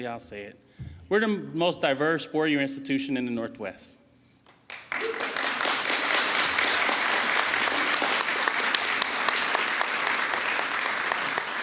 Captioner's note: applause